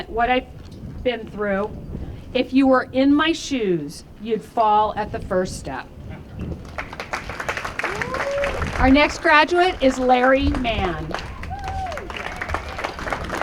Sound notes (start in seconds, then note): 6.6 applause